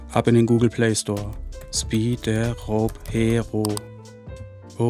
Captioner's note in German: Klicken